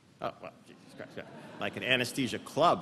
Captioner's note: laughter